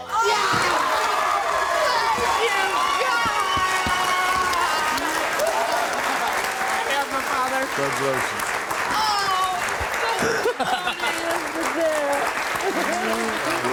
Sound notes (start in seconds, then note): 9.0 laughs